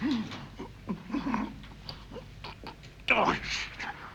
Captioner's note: labored breathing